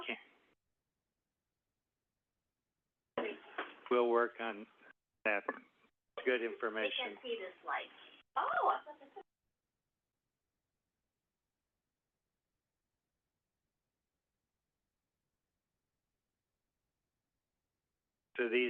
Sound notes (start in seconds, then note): 7.2 silence